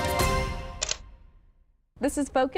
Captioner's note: camera shutter clicks